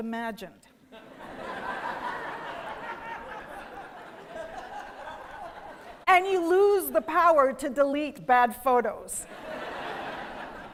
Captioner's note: laughing; laughing